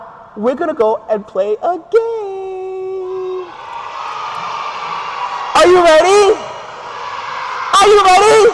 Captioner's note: crowd Cheers